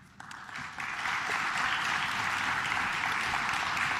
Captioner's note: claps